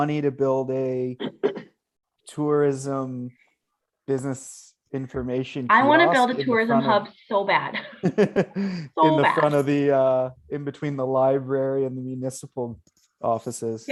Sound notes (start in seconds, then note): 7.7 laughs